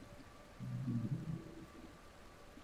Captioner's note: hums